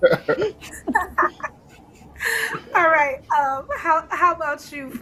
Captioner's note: laughter